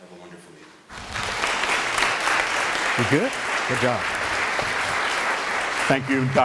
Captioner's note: applause